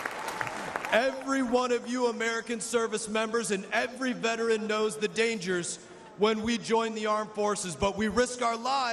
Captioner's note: cheers and applause